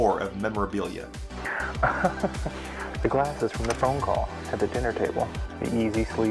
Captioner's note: laughter